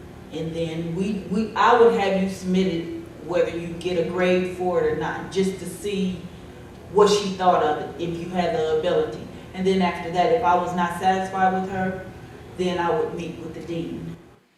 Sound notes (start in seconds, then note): none